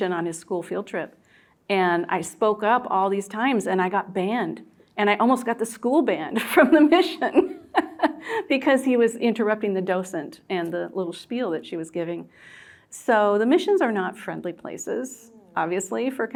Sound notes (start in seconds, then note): 7.2 laughing